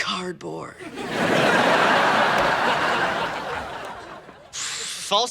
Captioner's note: audience laughing